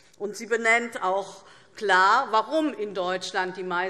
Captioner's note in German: none